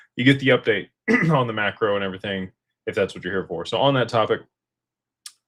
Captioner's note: clears throat